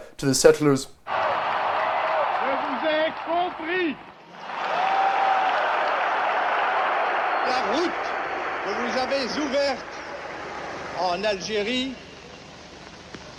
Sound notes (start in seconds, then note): 1.5 General de Gaulle's voice; 5.2 cheers